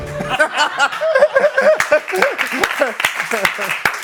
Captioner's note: laughter and applause